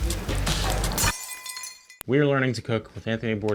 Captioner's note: glass shatters